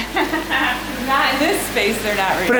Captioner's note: laughs